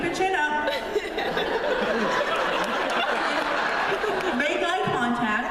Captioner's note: laughter